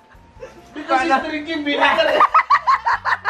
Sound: he's crying

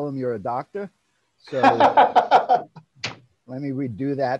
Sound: laughing

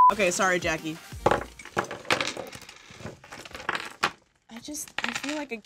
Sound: stuff falls onto table

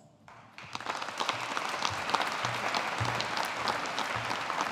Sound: audience applauding

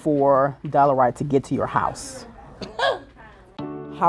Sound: woman laughs

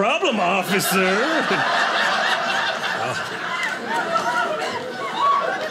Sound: audience laughing

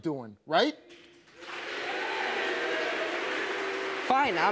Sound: audience applauding

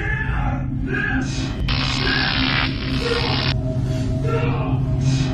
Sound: electric buzzing

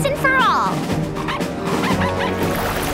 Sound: barking

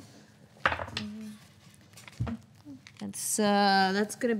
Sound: die clattering

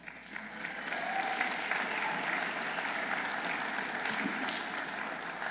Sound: audience applauding

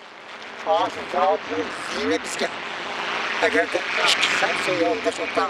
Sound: speaks in foreign language

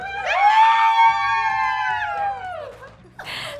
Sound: cheering

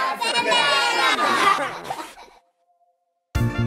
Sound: kids laughter

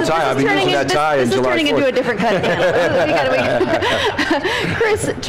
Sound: laughter

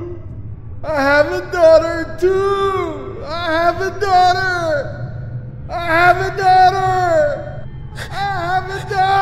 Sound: shouting

